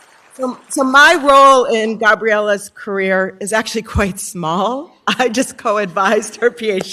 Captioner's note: applause